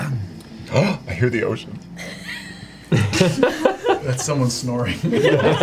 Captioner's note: gasps